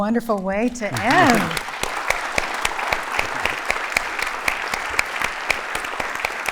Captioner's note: laughter